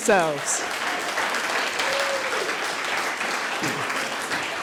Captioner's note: audience applauding